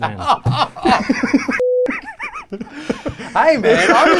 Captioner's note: laughing